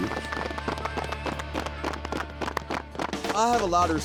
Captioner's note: applause